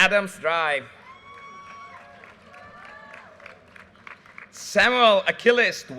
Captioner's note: audience cheers and applause